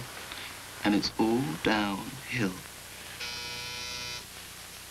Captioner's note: intercom buzzes